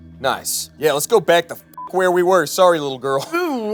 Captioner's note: beep